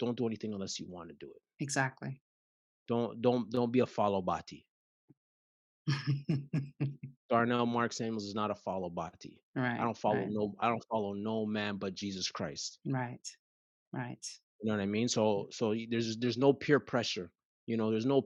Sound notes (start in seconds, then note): 6.1 chuckles